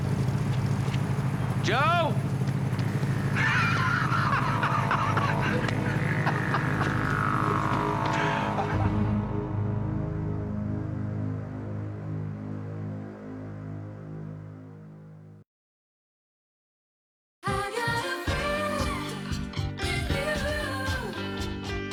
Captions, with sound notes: - Joe? Joe? (laughing) ■ I got a friend in you ■